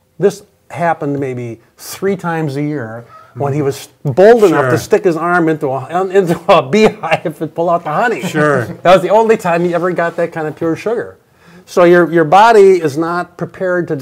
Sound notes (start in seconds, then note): 8.0 laughs